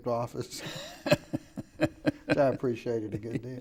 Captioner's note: laughing